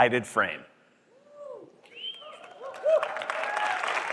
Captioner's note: applause